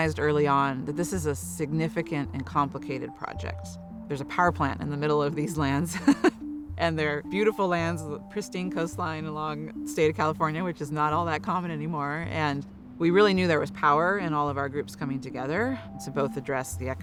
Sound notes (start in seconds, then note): 5.9 chuckles